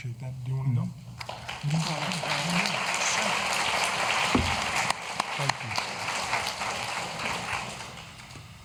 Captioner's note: applause